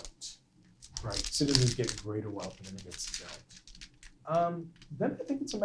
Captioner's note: microphone crackling